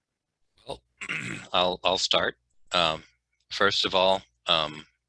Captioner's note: clears throat